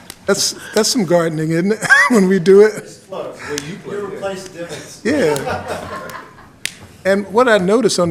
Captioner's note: laughter